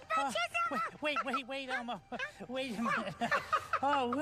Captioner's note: panting